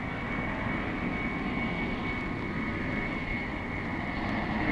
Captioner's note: engine roaring